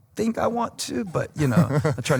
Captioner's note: chuckles